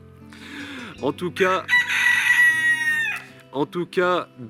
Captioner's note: rooster Cries